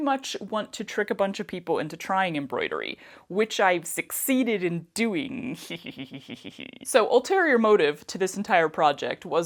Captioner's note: evil giggle